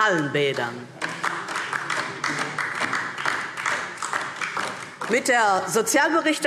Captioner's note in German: Beifall DIE LINKE